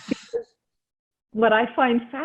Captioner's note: laughs